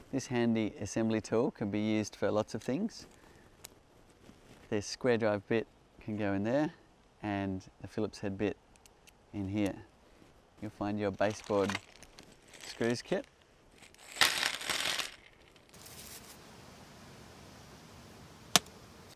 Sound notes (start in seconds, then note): 15.0 metal clanking